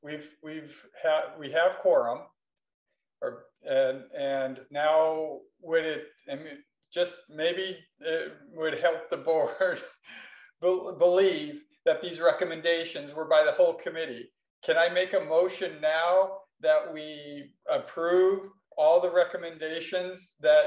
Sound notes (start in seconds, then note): none